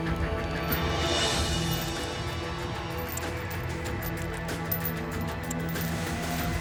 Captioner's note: suspenseful music; fire crackling